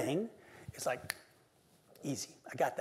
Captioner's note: snaps fingers